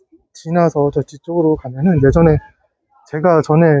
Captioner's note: murmur